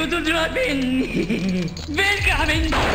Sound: laughs

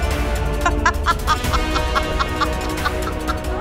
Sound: laughs

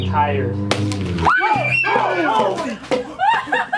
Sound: screaming

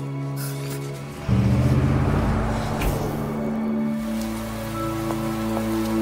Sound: somber music; cars zooming; rain pattering

